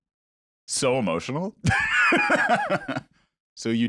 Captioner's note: laughs